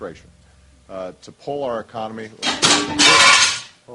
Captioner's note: teleprompter crashes